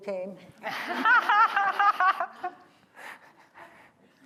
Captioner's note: laughter